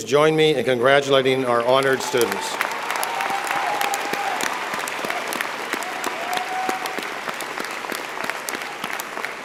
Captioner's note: applause